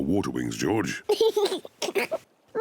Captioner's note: laughs